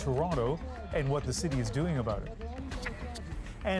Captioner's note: chanting